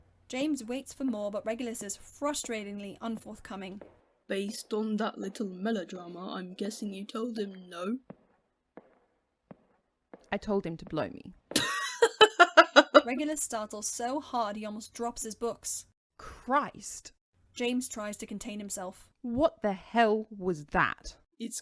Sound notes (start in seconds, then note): 8.4 there’s a pause, their steps echoing in the empty hall; 11.6 chuckles loudly